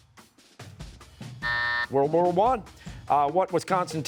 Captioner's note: buzzer